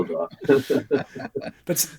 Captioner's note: laughing